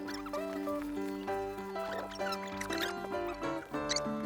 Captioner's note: laughs